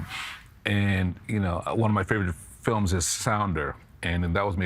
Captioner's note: none